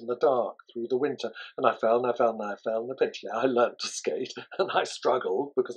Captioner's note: laughs